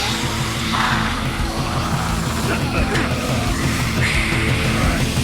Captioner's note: hissing; heavy rock music